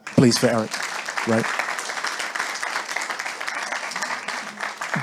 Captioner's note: audience applauding